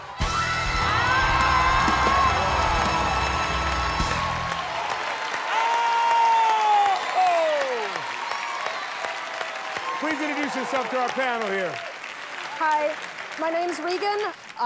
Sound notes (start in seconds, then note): 3.3 cheers and applause; 8.2 cheers and applause continue